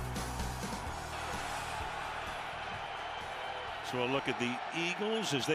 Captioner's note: cheers